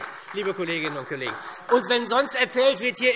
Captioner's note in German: Beifall SPD